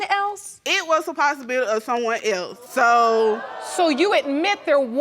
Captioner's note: audience exclaiming